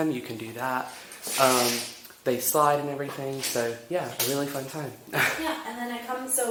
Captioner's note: chuckles